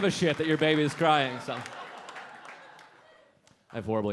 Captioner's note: audience laughing